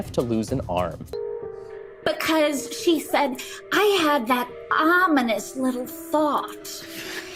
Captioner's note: spookily; laughs